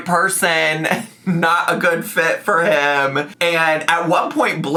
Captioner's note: chuckling